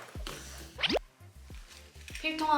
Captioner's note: peep